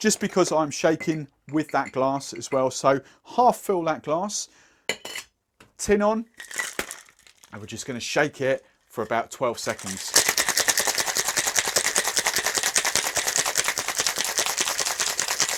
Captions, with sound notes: just because I'm shaking with that glass as well. So half fill that glass. (rattling) Tin on (ice clinking) And we're just gonna shake it for about 12 seconds. (ice clinking loudly)